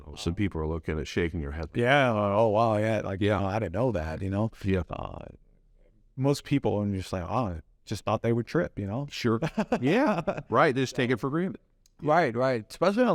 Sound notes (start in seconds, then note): 9.4 laughs